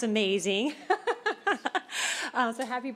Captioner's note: laughter